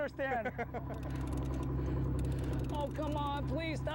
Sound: laughter

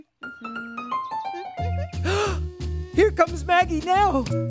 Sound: gasp

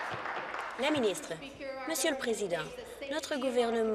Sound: applause

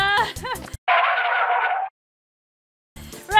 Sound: car brakes screeching

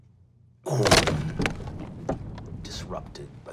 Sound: crumbling

